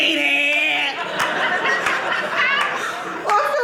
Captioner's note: audience laughing